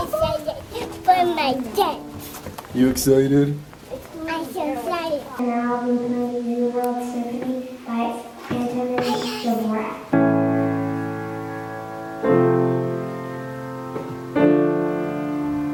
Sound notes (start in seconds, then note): 5.7 audio distorts; 10.3 acoustic piano music